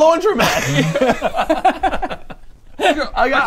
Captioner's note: defeated giggles